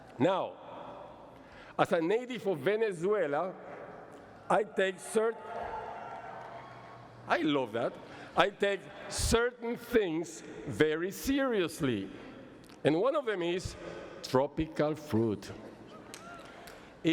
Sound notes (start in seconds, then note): 5.0 cheers